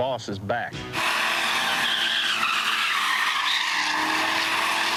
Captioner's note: tires squealing